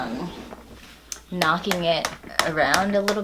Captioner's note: aggressive smacking